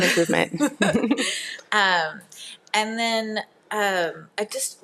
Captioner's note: laughs